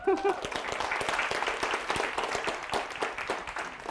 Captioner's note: audience applauding